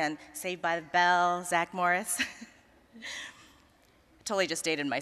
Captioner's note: chuckling